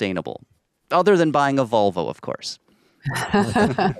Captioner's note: laughing